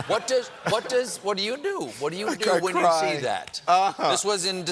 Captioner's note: laughter